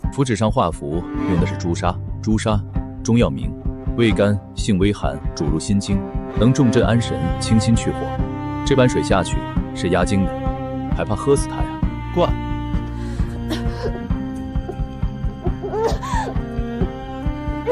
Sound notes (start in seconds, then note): 13.4 coughing